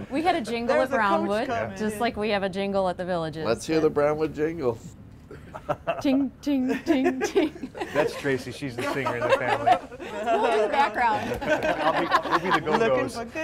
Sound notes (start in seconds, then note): 6.6 laughs